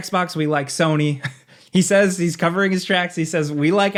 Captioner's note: chuckles